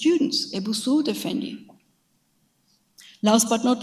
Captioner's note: speaks in a foreign language